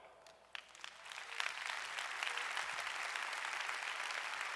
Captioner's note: audience applauding